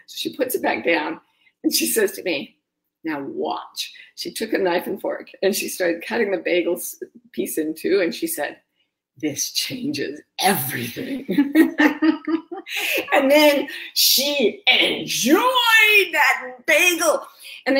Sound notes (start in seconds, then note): 10.7 laughs